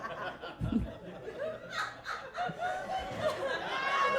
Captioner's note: audience laughing